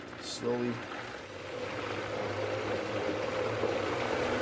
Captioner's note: blender running